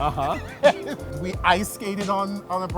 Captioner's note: laughs